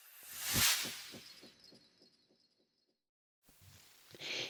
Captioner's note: sound effect